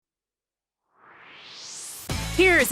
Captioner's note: swoosh